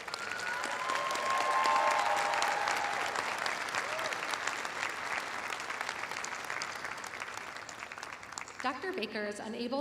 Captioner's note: cheers and applause